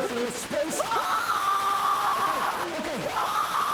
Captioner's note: Isabel screaming